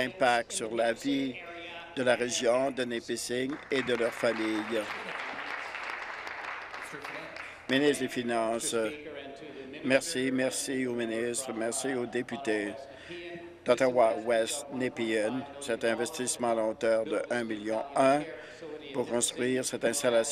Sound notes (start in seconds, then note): 5.6 applause